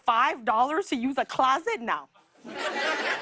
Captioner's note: laughter